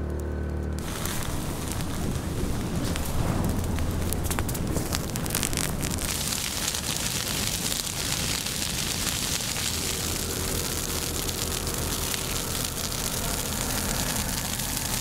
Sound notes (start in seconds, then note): 0.0 fire crackling and engine noise; 0.7 fire crackling and smoke